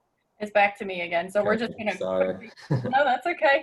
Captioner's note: laughs